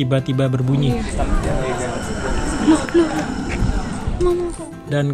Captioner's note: komodo dragon makes sound